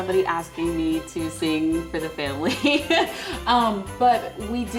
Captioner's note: laughs